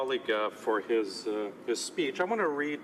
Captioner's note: speaking French